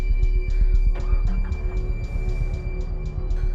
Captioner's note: car starts; breathing heavily